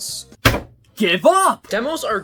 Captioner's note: slam